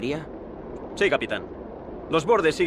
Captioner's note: Ramirez speaks Spanish